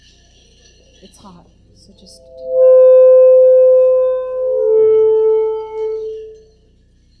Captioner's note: microphone feedback